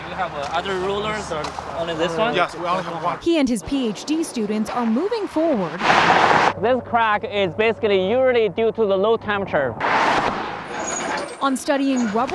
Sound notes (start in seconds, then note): 5.7 vehicles whirring; 9.9 vehicles whirring; 12.1 machinery squeaking